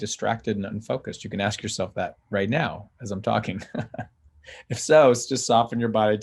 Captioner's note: chuckles